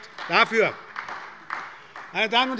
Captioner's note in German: Beifall bei der SPD